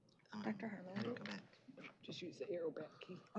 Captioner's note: indistinct chatter